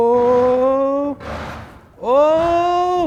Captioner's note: gadget screeches